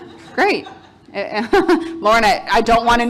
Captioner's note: audience laughing